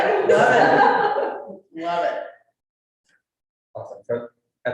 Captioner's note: crowd laughing